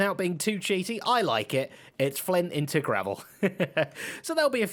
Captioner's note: laughs